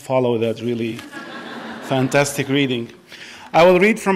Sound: audience laughs

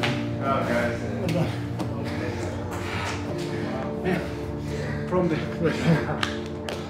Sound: Pablo breathing heavily; back patting

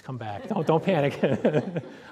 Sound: laughter

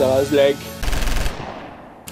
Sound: rapid fire full auto spray

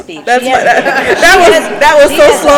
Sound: people laughing

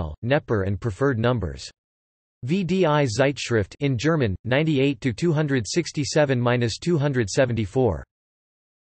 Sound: in German

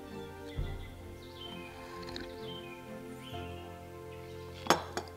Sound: slurps tea

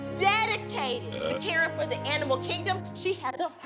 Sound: belches

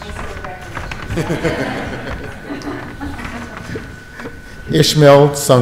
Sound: audience laughs

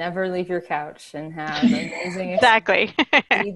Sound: laughing

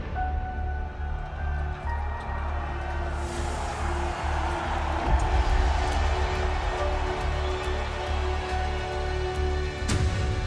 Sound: crowd cheers

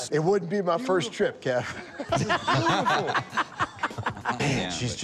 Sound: laughter

